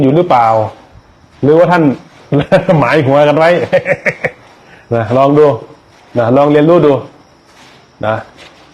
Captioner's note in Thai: เสียงหัวเราะ